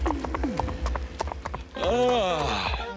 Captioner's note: yawns